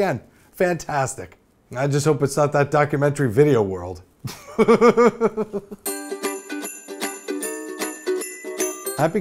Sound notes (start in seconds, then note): 4.3 laughs